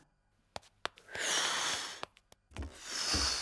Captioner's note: blows; continues blowing